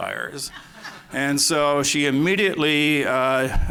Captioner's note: laughter